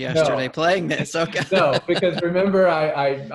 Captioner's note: laughs